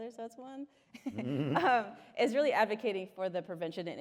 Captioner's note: laughter